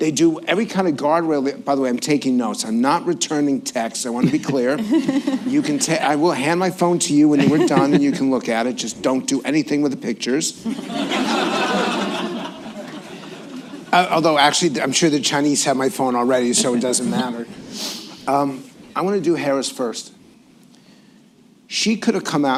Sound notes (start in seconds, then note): 10.6 laughter